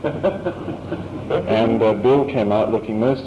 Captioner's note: laughter